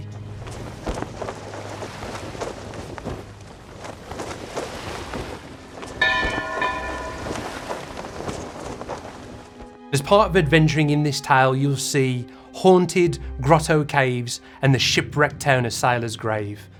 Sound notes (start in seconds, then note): 0.7 sail fluttering; 6.0 ancient bell ringing